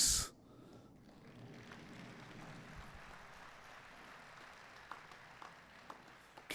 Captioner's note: applause